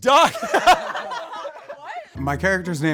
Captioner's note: everyone laughs